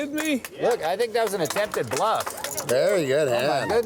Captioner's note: clapping